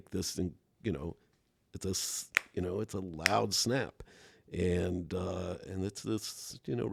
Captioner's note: snaps fingers